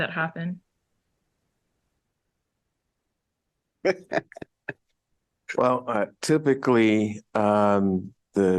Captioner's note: laughter